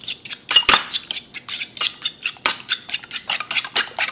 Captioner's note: whisking